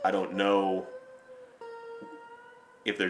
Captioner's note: none